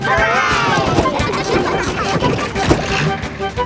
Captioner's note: giggling